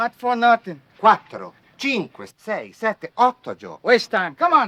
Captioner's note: speaking foreign language